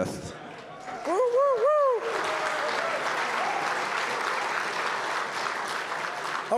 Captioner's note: applause